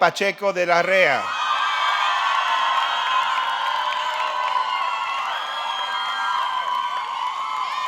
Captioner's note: audience cheering; audience clapping